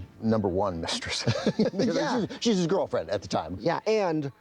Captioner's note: both laugh